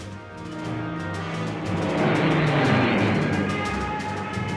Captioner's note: jet engine roaring